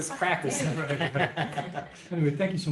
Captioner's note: laughter